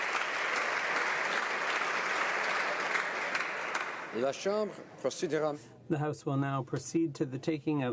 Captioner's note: applause